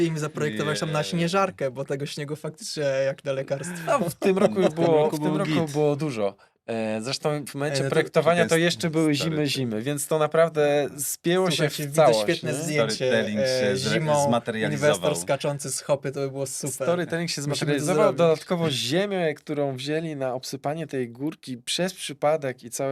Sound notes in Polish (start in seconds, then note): 3.6 śmiech